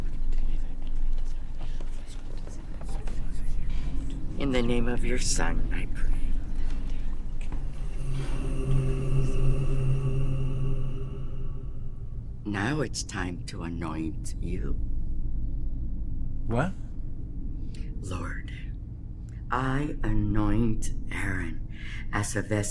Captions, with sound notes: (disembodied whispering) (quiet, eerie music) In the name of your son, I pray. (disembodied whispering) (quiet, eerie music) Now it's time to anoint you. - What? - Lord, I anoint Aaron as a vessel